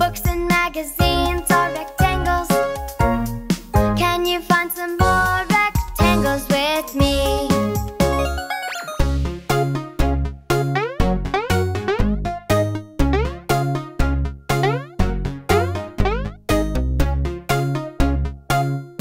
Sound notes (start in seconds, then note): 8.7 lively music; 11.1 jumps bonking